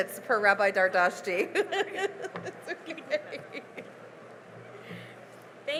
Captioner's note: laughing